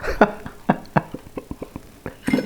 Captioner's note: laughs